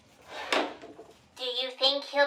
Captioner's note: door shuts